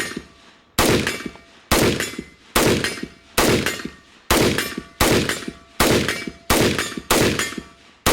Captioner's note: gunfire plinking against steel, increasing in pace